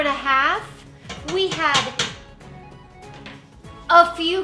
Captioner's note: tapping bowl